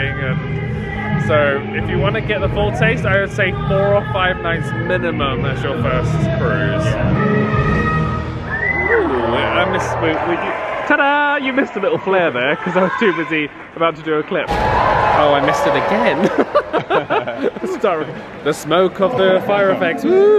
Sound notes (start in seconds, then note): 7.6 song ends; 8.4 guests cheering; 14.7 crowd gasps; 16.0 laughs